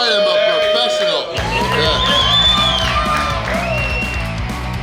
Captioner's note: cheering & Clapping